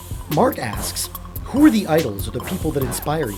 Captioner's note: voiceover